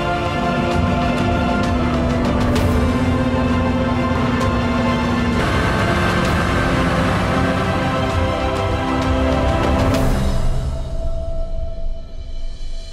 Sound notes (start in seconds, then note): 6.2 plane engine roaring; 9.9 dramatic music